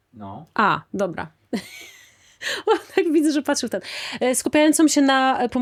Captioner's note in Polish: śmiech